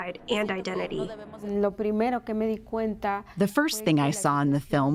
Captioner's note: through translator